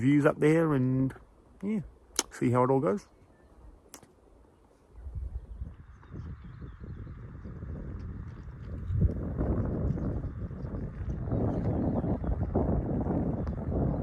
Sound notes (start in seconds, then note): 7.6 birds chirping; 7.6 wind roaring